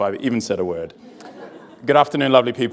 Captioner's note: audience laughs